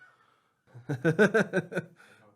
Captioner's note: laughing